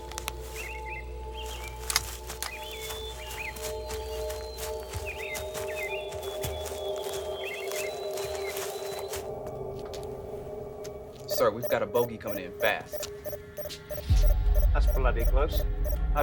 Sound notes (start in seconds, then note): 0.9 birds chirping; 1.8 footsteps thudding